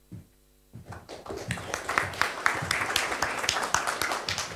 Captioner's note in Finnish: Aplodeja